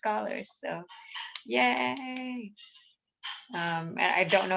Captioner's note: clapping